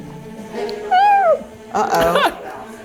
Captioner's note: squeaks